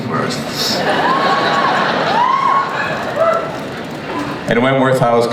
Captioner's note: audience cheers